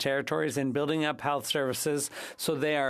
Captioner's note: speaking French